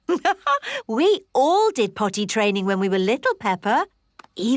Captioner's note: laughs